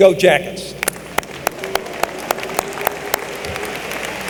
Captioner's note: applause